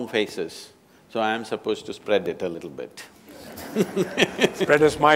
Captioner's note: laughter